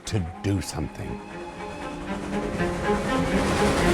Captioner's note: train whistle blows; spirited orchestral music